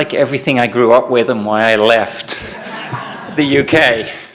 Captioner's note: laughter